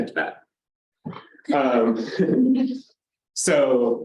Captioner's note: chuckling